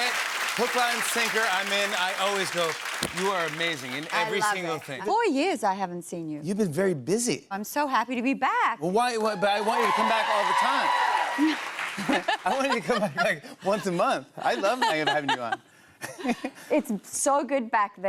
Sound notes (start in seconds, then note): 9.2 cheers and applause